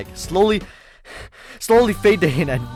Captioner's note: catches breath